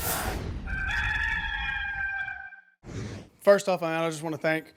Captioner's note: rooster crowing